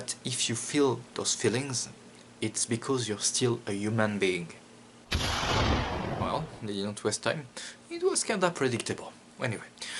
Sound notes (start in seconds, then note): 5.1 huge explosion